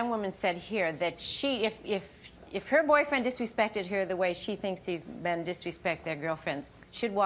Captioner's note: none